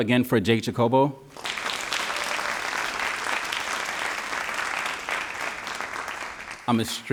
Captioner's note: all applauding